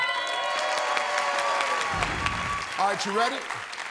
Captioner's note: cheers and applause